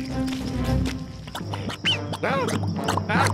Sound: quicksand bubbling

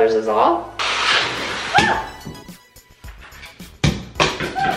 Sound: shrieking

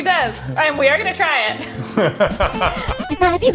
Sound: both laughing

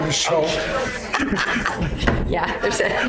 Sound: laughing

